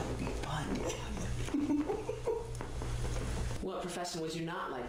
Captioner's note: laughs